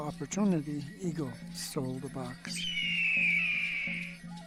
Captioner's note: eagle screeches